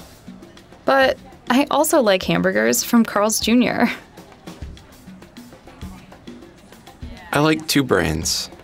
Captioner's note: laughing